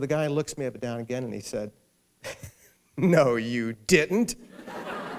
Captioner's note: laughter; laughing